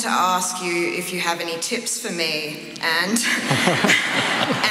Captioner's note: laughter